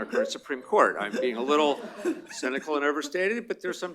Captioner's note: laughter